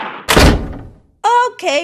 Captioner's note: door closes